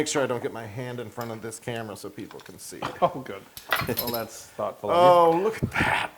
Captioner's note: laugh